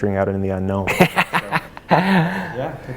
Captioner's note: laughs